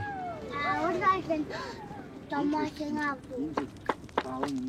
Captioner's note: foreign spoken audio